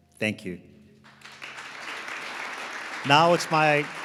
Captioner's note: audience applauding